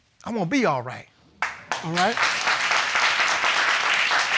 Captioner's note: audience applauding